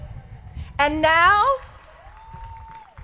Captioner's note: crowd applauding